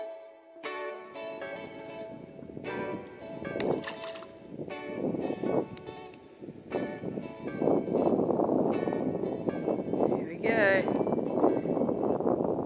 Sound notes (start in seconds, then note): 1.4 happy jazz music; 3.6 splash; 4.6 happy jazz music